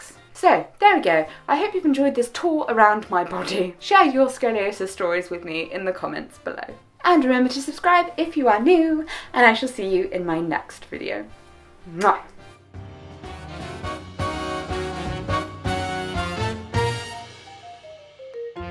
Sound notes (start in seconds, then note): 12.0 kiss